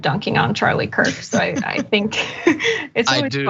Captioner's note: laugh